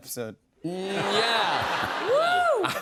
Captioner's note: laughter